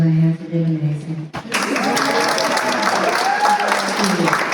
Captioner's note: applause